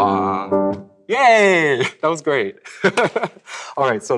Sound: laughs

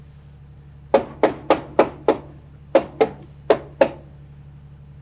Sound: hammer banging

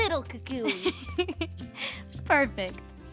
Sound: laughs

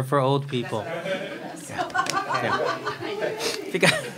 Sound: crowd laughs

